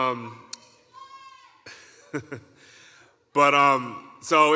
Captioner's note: giggles